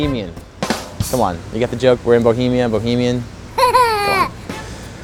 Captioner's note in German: hahaa